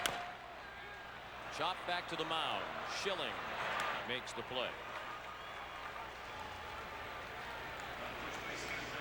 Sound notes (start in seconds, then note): 3.5 crowd noise